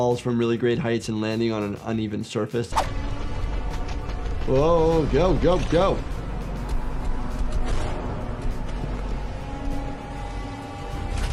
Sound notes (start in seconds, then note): 2.6 graphics swishing; 3.4 suspenseful game music; 5.6 character shuffling; 7.8 creature thudding